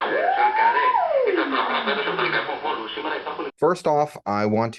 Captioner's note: radio Sounds